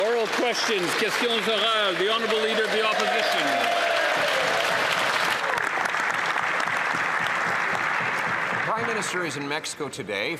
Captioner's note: some Applause